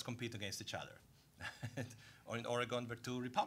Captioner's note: laughing